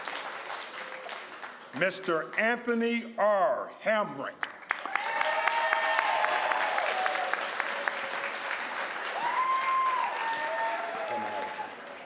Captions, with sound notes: Mr. Anthony R. Hamrick (crowd applauds)